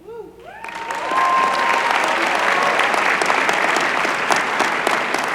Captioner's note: applause